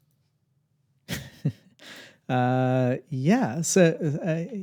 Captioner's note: laughing